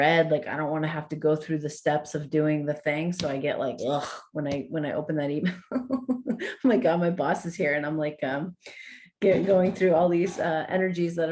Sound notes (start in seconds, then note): 5.6 chuckles